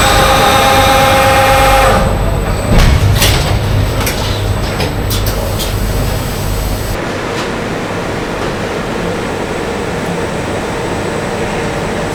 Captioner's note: screaming